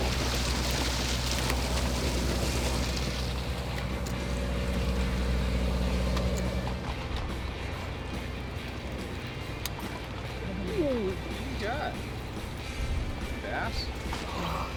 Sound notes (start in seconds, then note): 1.6 water splashing; 8.6 reel clicking